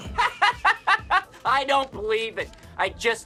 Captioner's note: laughter